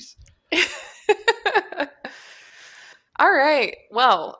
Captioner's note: laughs